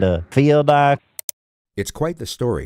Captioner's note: click